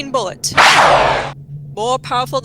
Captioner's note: gunshot, with ricochet